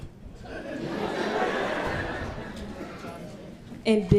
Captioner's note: all laughing